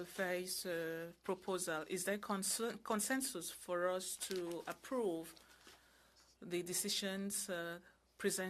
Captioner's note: speaking French